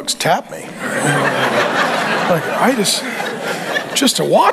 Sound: congregation laughing

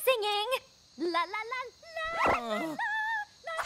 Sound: singing; groaning

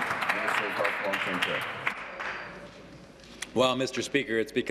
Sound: applause

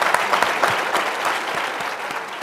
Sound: applause

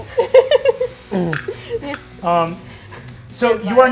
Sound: laughing

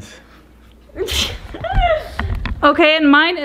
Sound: laughing

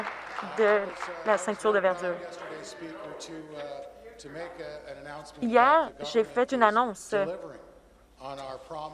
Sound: some Applause

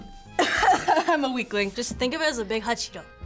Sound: coughs

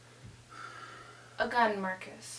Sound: sighs

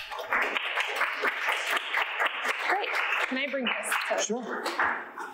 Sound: audience clapping

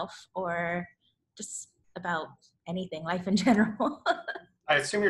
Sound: laughs

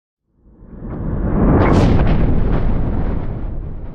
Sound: thunder

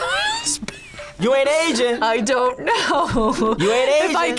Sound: laughs

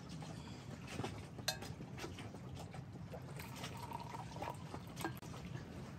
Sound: sound from the thermos and water splashing in the background

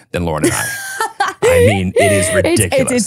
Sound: laughing

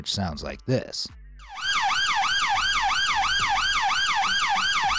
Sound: police siren blaring

